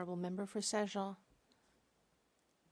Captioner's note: speaking French